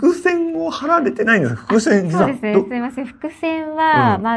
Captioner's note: laughs